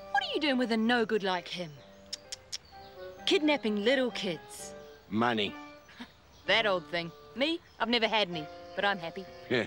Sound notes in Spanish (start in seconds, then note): 2.4 tuts